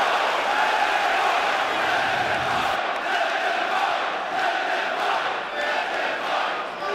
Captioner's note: fans chanting